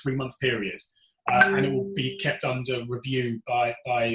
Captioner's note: computer alert pings